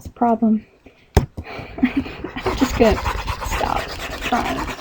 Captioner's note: laughing